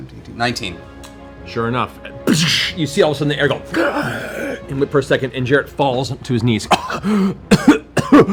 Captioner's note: gasp; coughs